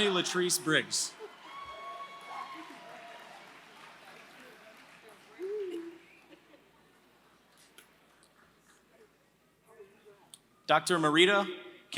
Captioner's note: applause